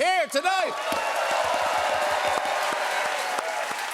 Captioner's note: cheers and applause